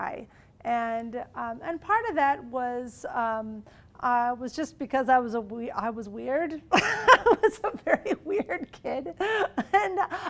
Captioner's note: laughing